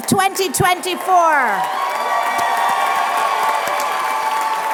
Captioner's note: applause